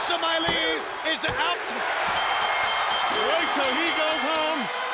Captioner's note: bell ringing